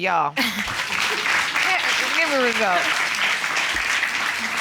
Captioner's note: audience applauds